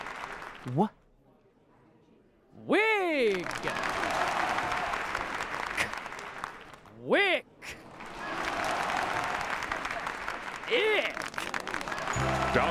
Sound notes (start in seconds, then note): 3.2 cheering and applause